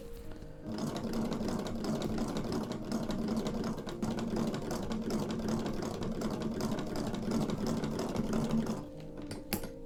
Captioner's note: somewhat uncertain sewing machine ASMR